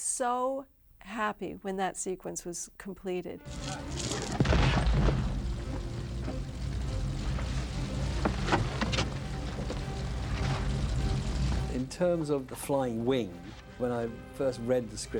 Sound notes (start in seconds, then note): 4.4 heavy thud